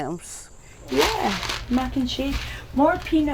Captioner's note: pasta rattles